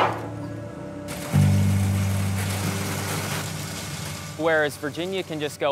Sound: gentle music; metal clanking; rocks thudding

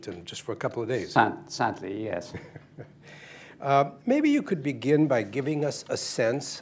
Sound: laughs

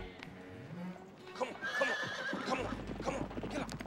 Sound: horse neighing

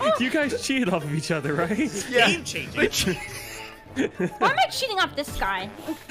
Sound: laughs

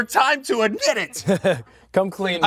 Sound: laughs

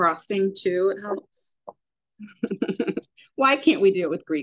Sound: chuckles

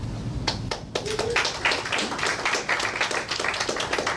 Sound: audience clapping

